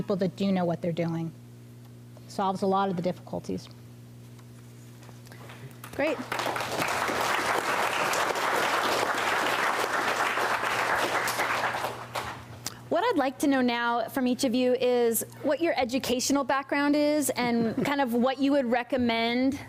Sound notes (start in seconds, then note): 7.4 applause